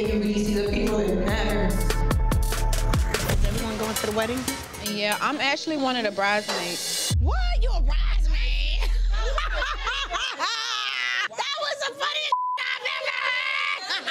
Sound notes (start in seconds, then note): 8.7 blonde person laughing